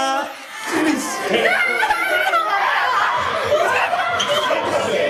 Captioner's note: cheer and scream